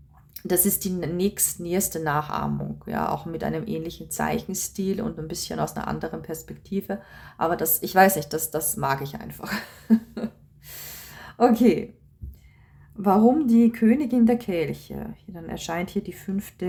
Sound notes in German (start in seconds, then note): 9.4 gelächter